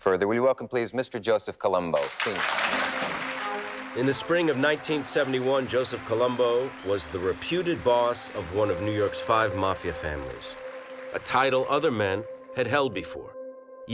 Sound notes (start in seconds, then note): 2.4 audience applauding